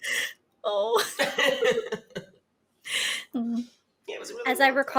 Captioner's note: laughs